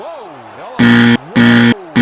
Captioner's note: "Wrong Answer" Buzzer Sound